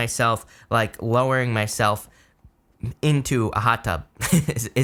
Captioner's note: chuckles